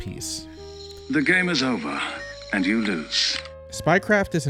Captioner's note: British accent